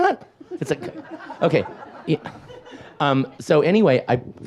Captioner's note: audience laughs